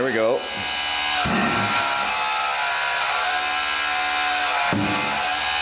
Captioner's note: mechanical whirring